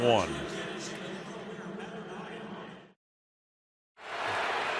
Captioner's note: pa announcement